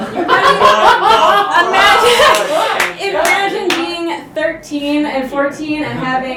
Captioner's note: gasps